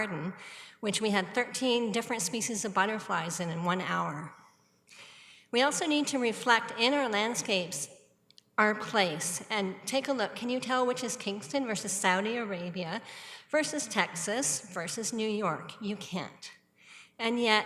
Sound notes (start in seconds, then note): none